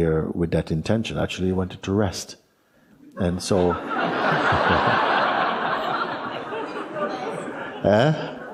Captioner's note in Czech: smích